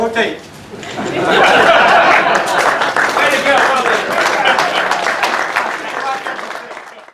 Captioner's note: laughter, applause